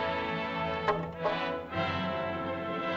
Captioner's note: suspenseful music; staff clatters; suspenseful music